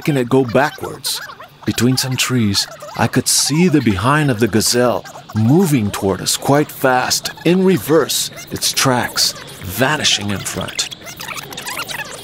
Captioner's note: fast backword voices